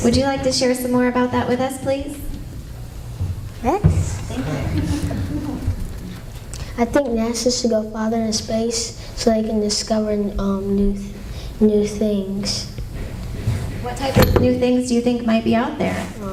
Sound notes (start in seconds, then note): 4.3 laughter